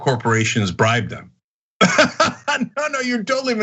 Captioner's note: laugh